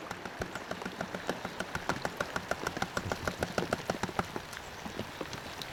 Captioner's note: tap tap tap tap